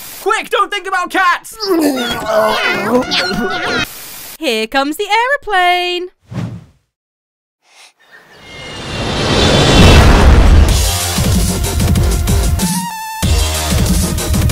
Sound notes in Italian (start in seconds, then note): 1.6 Gattini miagolano; 8.4 Fischio aumenta